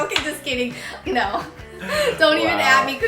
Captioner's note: laughs